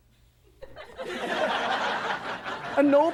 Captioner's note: audience laughs